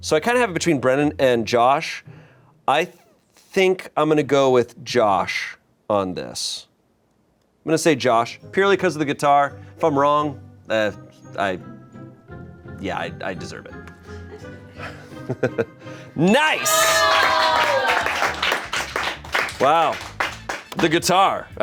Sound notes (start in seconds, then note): 16.9 crew applauds